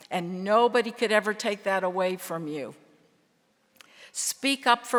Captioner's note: none